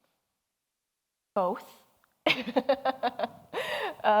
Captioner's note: laughs